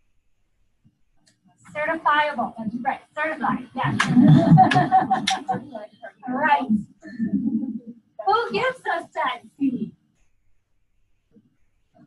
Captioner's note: laughter